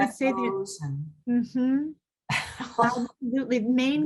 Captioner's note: laughing